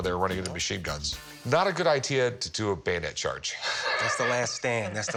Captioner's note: laughs